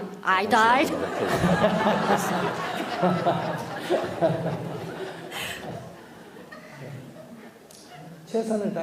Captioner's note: /Audience Laughter